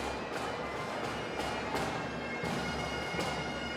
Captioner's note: none